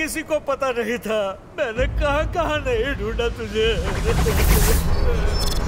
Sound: Ranga sobbing

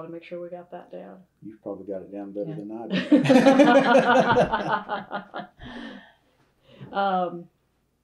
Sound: laughter

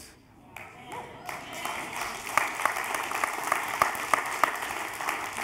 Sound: congregation applauds

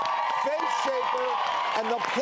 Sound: cheering

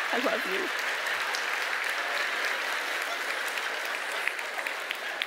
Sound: audience applauding

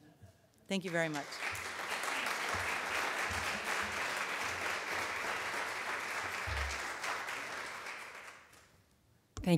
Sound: audience clapping

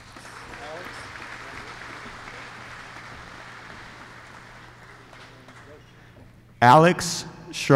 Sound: applause

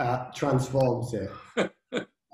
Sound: laughing

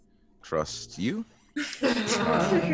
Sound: laugh

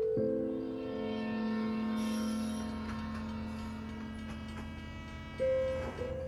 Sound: train passing in the background

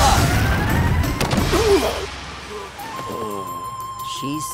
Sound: groaning

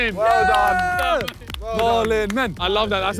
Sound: Sidemen cheer and clap

